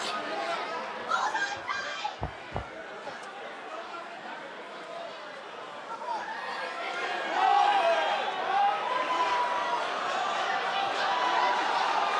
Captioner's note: cheers and applause